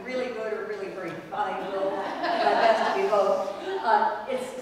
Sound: laugh

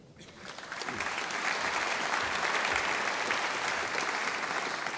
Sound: audience applauding

